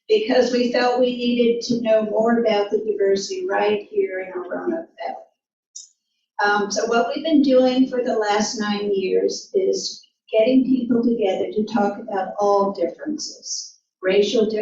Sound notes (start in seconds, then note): none